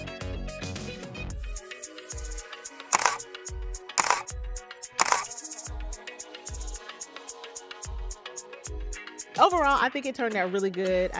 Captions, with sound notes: (camera shutters) - Overall, I think it turned out really good.